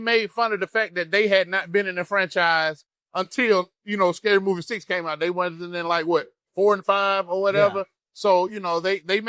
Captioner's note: laughs